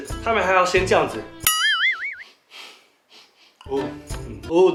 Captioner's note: sniffing